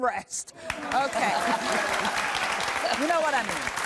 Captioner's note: audience applauding